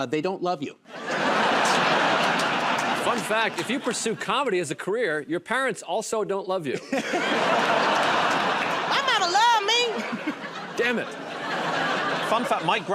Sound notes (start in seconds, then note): 0.9 laughter; 6.8 laughter and applause; 9.7 laughter